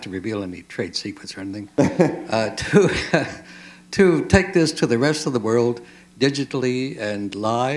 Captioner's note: chuckle